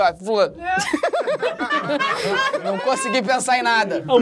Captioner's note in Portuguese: risadas